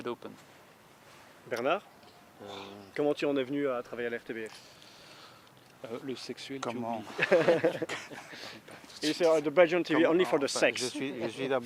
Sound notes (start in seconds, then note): 1.7 foreign dialouge; 5.5 foreign dialouge; 9.3 foreign dialouge